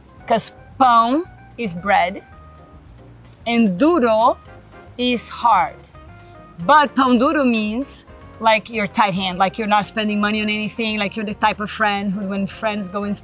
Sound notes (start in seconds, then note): 0.0 speaks Portuguese; 3.9 speaks Portuguese